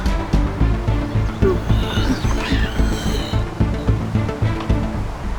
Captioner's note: moans